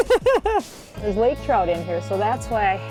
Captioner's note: laughs